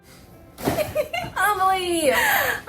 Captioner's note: participant laughing